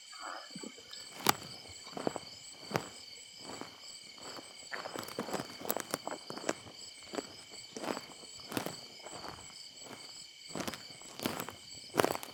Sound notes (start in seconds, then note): 1.2 footsteps crunching